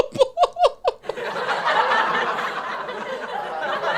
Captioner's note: laughs